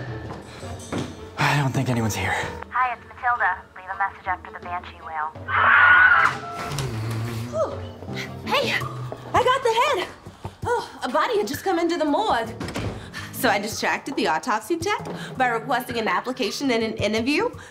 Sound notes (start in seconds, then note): 6.1 shriek; 6.2 door opens